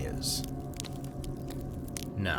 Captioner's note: fire crackles